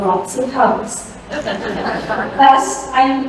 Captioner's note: laughter